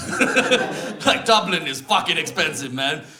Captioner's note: laughter